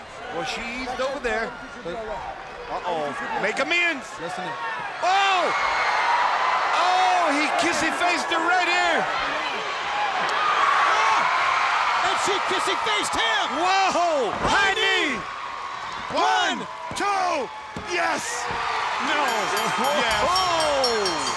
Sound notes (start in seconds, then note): 4.2 crowd cheering; 9.9 crowd cheering; 18.5 crowd cheering; 19.0 bell ringing